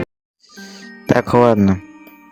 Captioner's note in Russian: Вздыхает